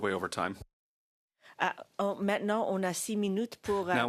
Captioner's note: speaking French